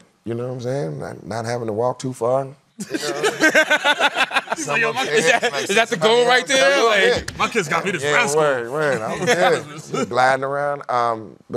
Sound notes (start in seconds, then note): 2.8 laughter